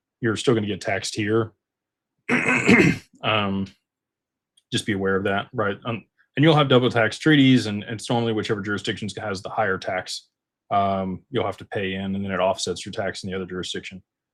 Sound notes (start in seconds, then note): 2.3 clears throat